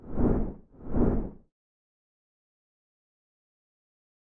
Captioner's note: air whooshing